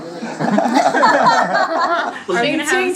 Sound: laughter

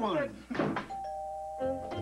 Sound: doorbell

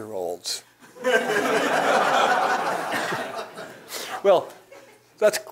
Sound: laugh

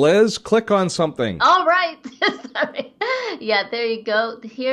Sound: laughing

